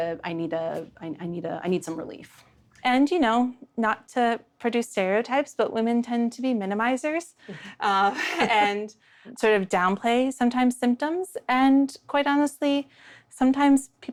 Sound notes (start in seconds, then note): 7.4 they laugh